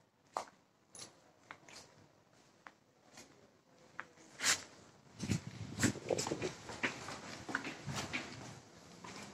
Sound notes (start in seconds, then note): 3.0 muffled voices